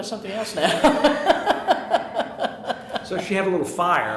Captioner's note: chuckling